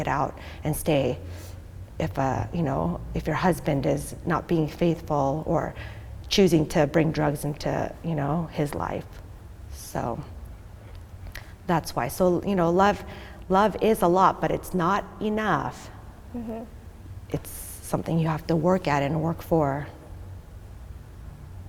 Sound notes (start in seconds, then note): none